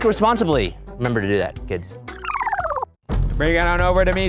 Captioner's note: tape screeching; upbeat music